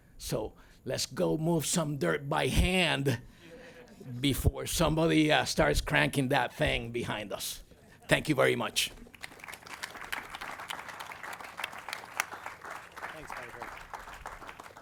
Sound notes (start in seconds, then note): 9.0 audience claps